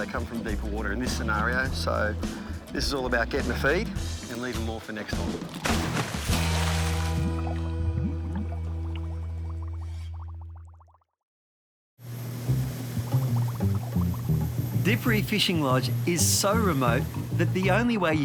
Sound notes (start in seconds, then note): 6.5 upbeat instrumental music; 7.9 water splashing; 16.0 upbeat instrumental music